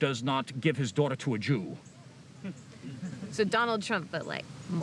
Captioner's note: laughter